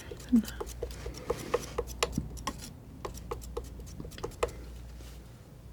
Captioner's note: tapping